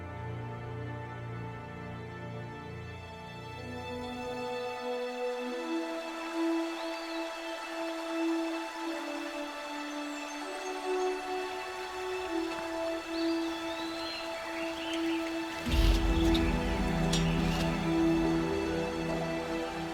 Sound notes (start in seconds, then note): 3.6 somber music; 5.6 water rushing; 9.6 birds chirping